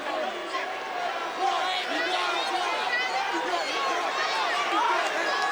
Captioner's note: crowd murmuring